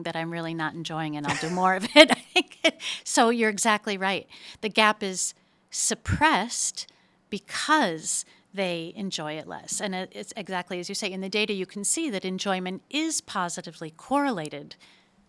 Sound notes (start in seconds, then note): 1.2 laughs